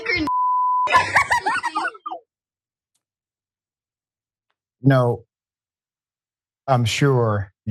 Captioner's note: laugh